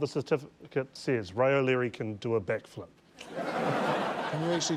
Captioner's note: laughter